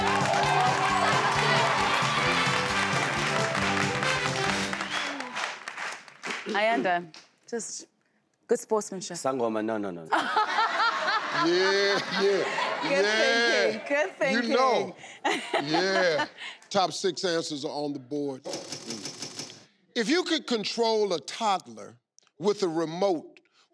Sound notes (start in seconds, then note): 0.0 audience applauding; 18.4 board clicking